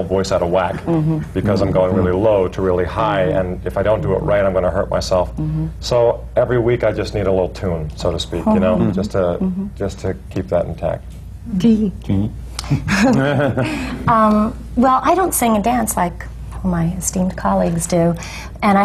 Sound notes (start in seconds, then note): 12.6 laughter